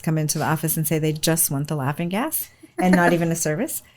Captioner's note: laughs